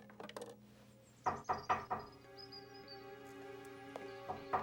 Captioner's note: knocking